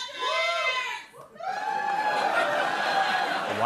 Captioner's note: cheers and applause